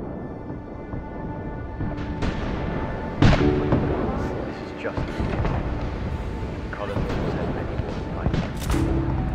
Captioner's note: intermittent cannon and gunfire